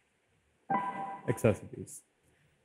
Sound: longer ding

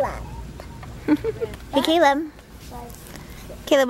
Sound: laughs

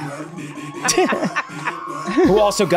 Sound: laugh

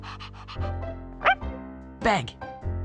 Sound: panting; bark

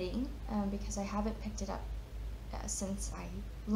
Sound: none

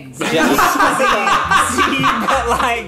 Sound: laughing

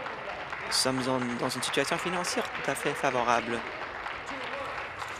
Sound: applause

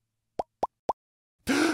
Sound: gasp

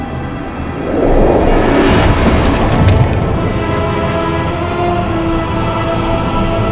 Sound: intense music; whooshing

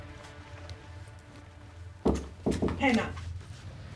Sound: more knocks

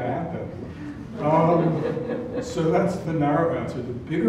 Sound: laugh

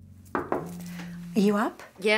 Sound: loud knocking

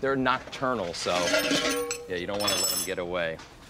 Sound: clattering

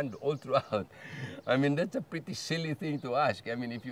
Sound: chuckles

